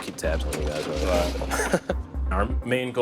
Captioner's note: laughs